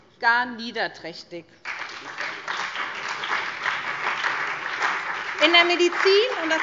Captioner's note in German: Beifall SPD, BÜNDNIS 90/DIE GRÜNEN, vereinzelt CDU und Freie Demokraten